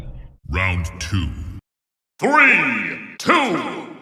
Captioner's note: deep voice